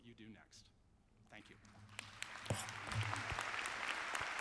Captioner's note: applause